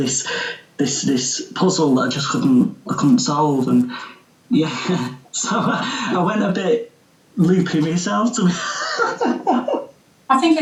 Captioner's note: he laughs